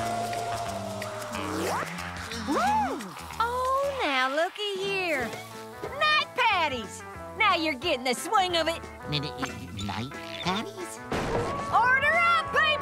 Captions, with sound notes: [gasping] Oh, now, looky here. Night Patties! Now, you're getting the swing of it. N-n-night Patties? Order up, people!